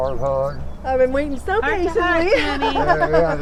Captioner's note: laughing